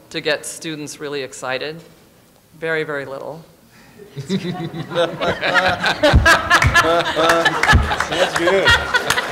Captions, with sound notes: to get students really excited. Very, very little. [LAUGHTER] See, that's good.